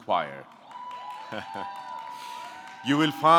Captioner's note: audience clapping; audience cheering